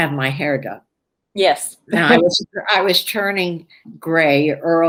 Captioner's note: laughs